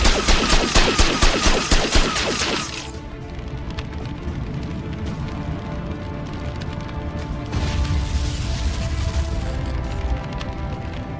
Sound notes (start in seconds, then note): 2.5 flames whooshing; 2.8 intense music; 7.5 explosion booms